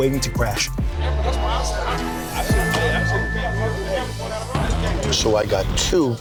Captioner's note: crowd chatter